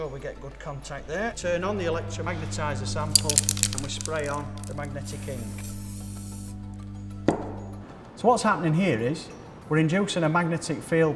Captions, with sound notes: we get good contact there. Turn on, to magnetise the sample and we spray on the magnetic ink. [spray hisses] So what's happening here is we're inducing a magnetic field